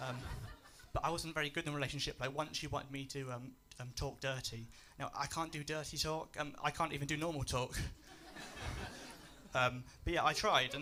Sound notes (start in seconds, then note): 8.0 laughs